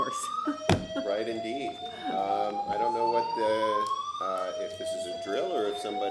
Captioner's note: sirens